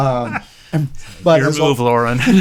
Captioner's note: laughing